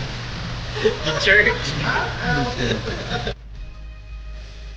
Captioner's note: crew laughing